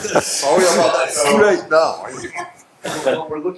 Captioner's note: laughing; participants chattering